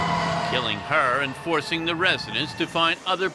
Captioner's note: sirens